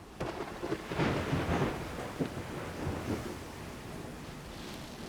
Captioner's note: thunderstorm